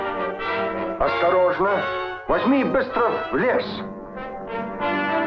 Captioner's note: general speaking in Russian